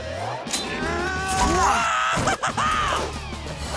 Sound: screaming

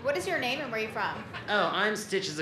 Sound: laughter

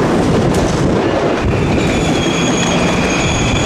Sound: bells ringing

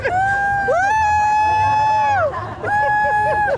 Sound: cheering

